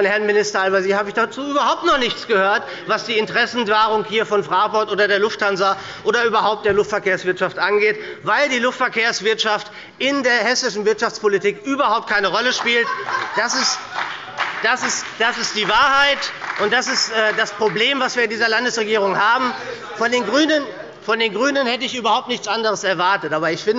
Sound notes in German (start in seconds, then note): 12.4 Beifall bei der SPD und der FDP – Lachen bei der CDU